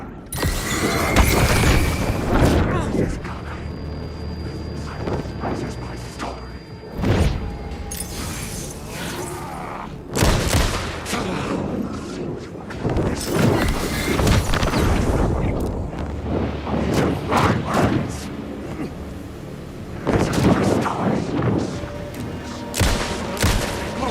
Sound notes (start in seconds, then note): 0.0 ah, ah, ah, ah; 0.3 suspenseful music; 5.2 gunshots